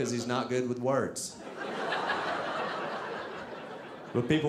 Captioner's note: audience laughing